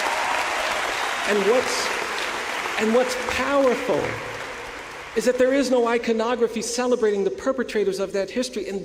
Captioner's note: applause